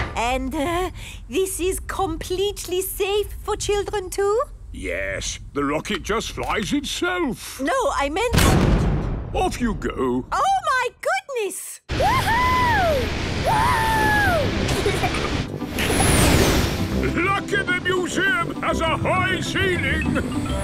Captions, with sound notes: And, er... this is completely safe for children too? - Yes. The rocket just flies itself. - No, I meant-- - (blasts off) - Off, you go! - Oh, my goodness! - Wooohooo!! - (rocket thrusting) - Lucky the museum has a high ceiling!